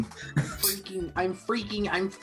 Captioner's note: chuckles; mocking